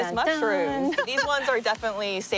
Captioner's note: hums